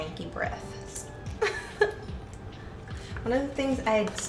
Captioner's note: laughs